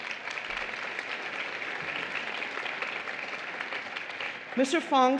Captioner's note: applause